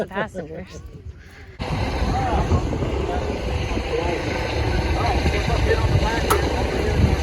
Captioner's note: very noisy engines